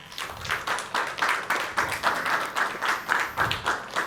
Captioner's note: applause